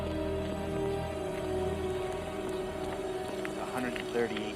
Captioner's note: suspenseful music; feet clacking